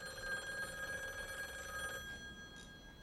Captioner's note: phone ringing